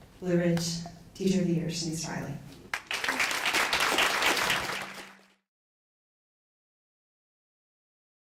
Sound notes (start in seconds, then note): 2.7 audience applause